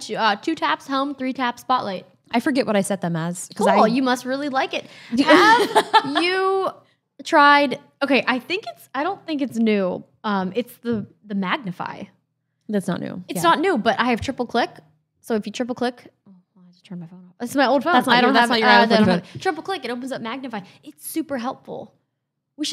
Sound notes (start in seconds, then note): 5.1 laughs